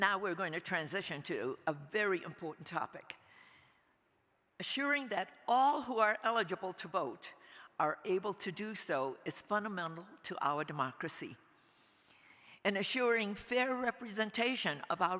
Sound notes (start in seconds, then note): none